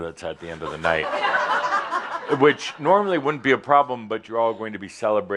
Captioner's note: laughter